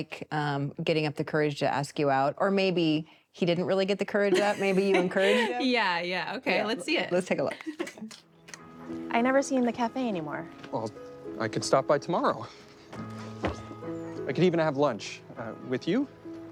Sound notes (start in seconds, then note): 6.1 laughs; 9.7 gentle instrumental music